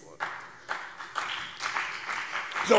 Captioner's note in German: Beifall CDU und BÜNDNIS 90/DIE GRÜNEN